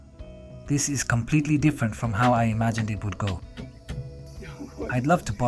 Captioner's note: laughs